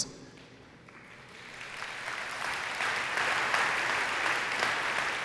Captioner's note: audience applauding